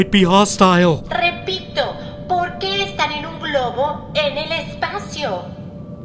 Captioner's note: Spanish